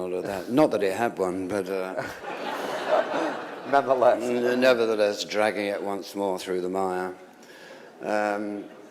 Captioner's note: laughter